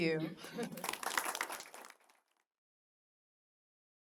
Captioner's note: applause